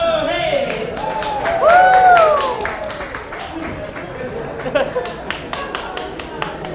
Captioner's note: audience applauds